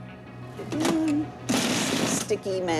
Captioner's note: whirring